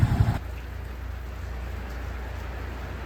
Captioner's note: the sound of a downpour.mp3